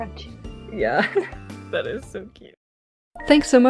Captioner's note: giggling; laughs